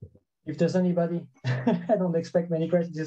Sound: chuckles

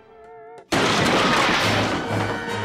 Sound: thudding

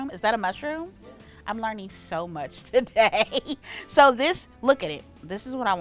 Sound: laughs

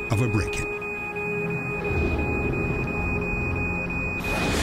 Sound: beeping

